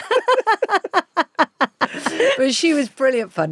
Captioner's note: both laughing